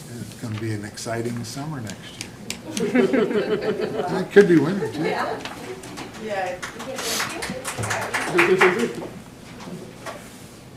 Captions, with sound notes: It's going to be an exciting summer next year. (laughter) It could be winter, too. It could be winter, too.